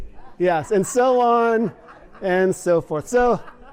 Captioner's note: laughter